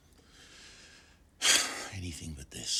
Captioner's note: sighs